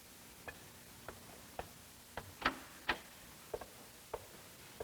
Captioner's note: footsteps